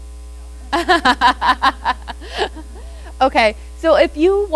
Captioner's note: laughing